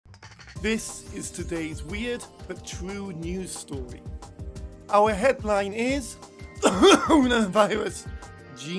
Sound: coughing

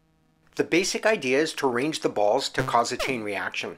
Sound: none

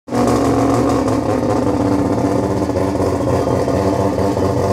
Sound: car engine revving

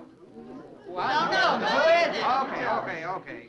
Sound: all chattering

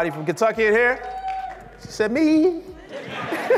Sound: audience shouts; laughs

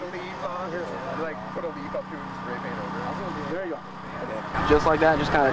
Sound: background chatter

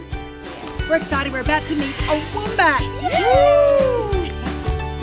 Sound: cheers

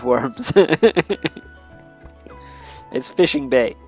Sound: laughs

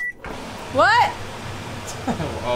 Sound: fan blasting; laughing

